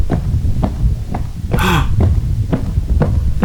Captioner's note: gasp